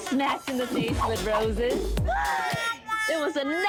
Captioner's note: sighs